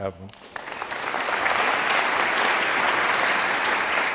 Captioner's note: audience clapping